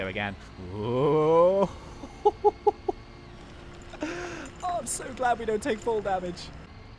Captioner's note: laughs